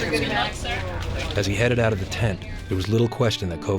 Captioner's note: voiceover